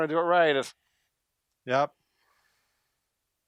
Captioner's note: deep inhale